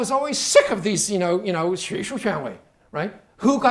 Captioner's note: speaking Chinese